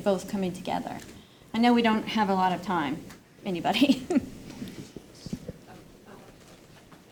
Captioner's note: laughs